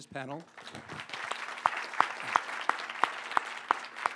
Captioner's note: audience applauding